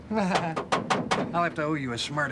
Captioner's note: knocking on door